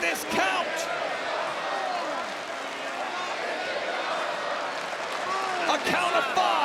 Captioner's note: crowd chants "This is awesome"